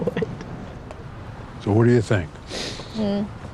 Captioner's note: As Alice, laughter